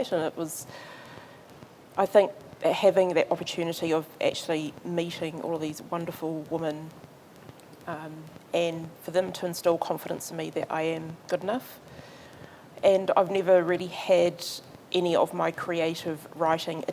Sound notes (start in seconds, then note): none